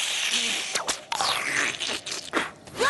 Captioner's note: slurp